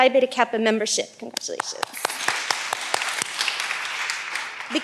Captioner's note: all applauding